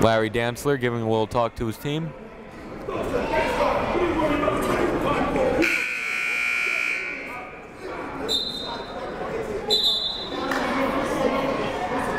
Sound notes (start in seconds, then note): 5.6 buzzer ringing; 9.7 whistle blowing